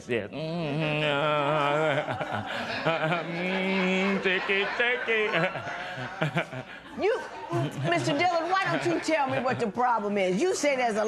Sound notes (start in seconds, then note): 1.9 laughter; 5.3 laughs